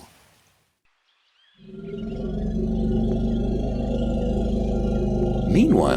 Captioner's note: elephant growling